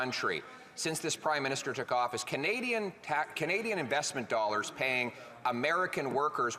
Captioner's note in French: voix de l'interprète